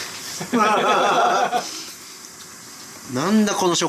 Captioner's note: laughter